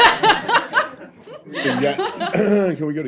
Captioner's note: laughter